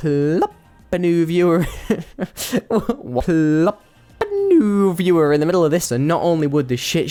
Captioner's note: laughs